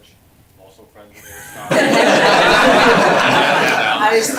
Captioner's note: laughter